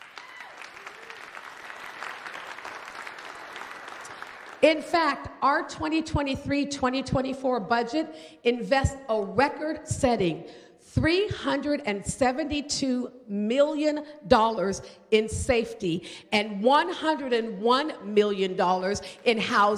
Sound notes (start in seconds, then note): 6.8 applause